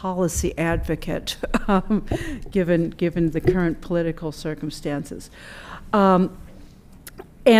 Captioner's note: laughter